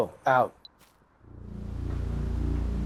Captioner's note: earpice beeps; mysterious music